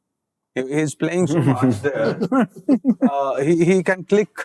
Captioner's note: chuckle